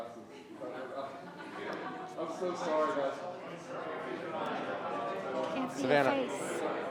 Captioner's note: group quietly conversing; group laughing